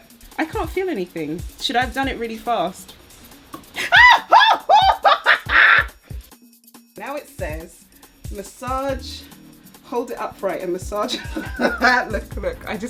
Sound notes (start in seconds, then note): 3.8 screams; 11.1 laughs